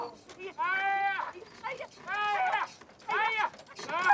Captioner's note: woman and man exclaiming; both crying out